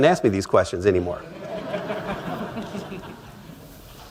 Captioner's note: laughter